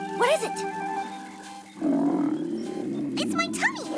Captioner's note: rumble!